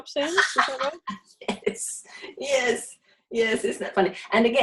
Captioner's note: laughs loudly